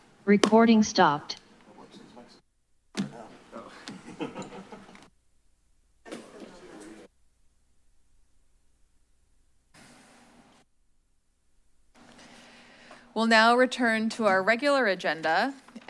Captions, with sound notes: - Recording stopped. [indistinct background chatter] [silence] - We'll now return to our regular agenda,